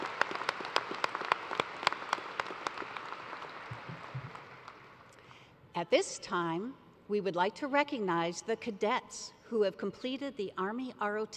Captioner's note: cheers and applause